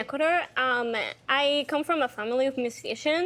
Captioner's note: none